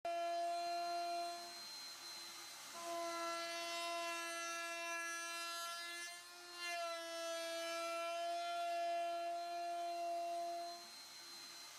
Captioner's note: machine noise